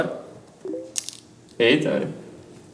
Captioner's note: notification